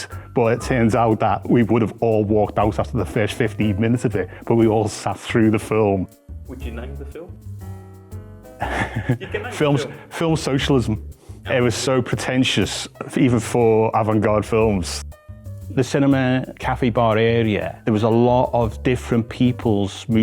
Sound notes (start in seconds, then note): 8.6 laughs